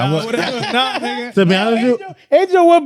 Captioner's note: laughing